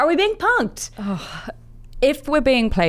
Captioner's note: sighs